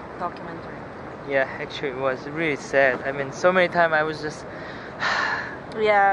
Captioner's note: very sad sigh